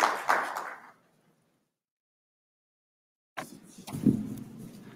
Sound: applause

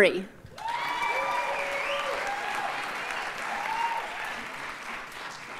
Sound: audience cheers and applauds

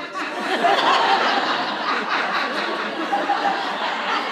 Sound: audience laughs

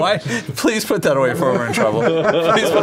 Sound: laughter

